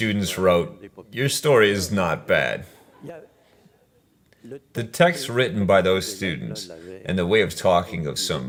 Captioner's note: laughs